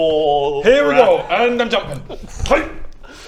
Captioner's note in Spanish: ¡hyygh!